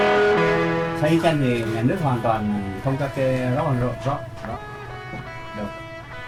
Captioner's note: speaking foreign language